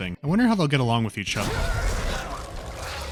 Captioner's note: cry of pain